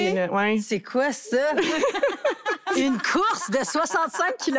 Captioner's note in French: rires